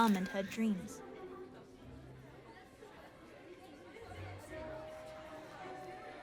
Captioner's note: indistinct conversation in distance